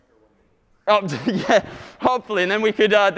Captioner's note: laughing